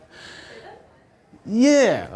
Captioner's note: voiceover